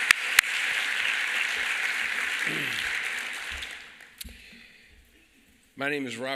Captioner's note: applause